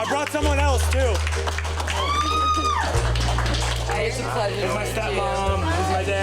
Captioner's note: applause